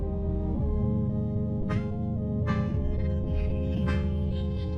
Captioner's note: electronic thudding